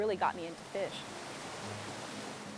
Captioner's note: fast running stream